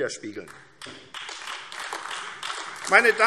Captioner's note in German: Beifall AfD